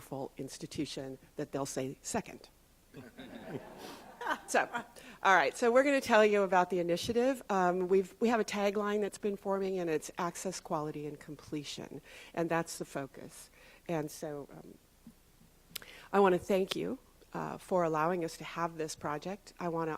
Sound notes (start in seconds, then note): 2.9 laughter